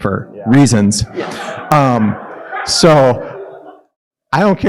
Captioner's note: audience laughing